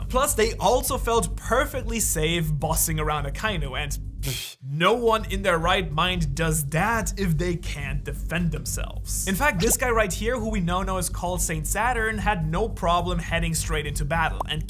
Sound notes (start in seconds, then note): 4.2 blows air